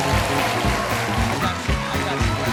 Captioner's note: applause